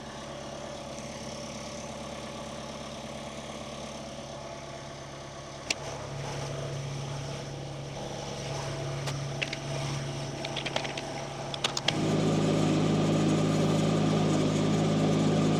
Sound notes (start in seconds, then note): 6.3 wood clacks; 12.5 machinery rumbles